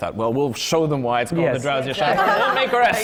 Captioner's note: laughter